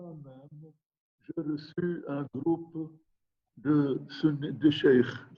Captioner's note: speaking in foreign language